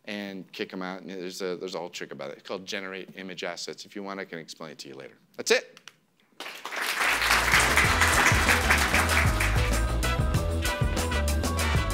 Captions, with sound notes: and kick 'em out and there's a whole trick about it called generate image assets. If you want I can explain it to you later. That's it. (audience applause) (peppy music)